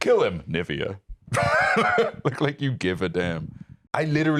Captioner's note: laughs